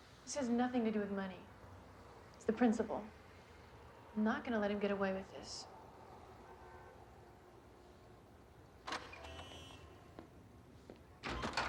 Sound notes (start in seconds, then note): 8.8 door opens